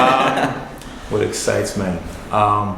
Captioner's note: laughing